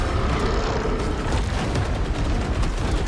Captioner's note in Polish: pomruk